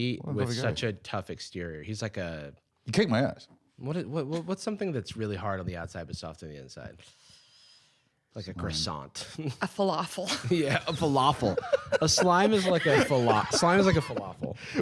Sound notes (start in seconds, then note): 11.0 laughing